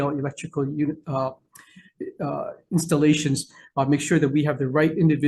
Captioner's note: stammering